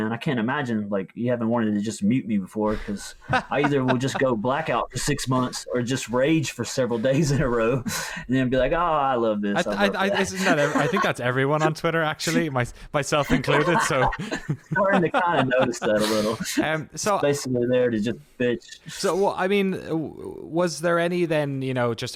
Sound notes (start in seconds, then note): 2.6 laughs; 13.2 laughs